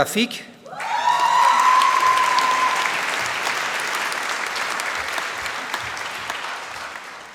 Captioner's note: applause